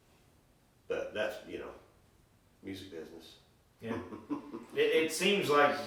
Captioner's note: chuckling